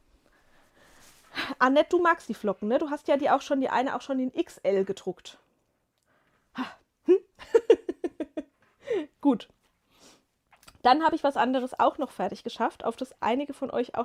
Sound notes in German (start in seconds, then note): 7.1 gelächter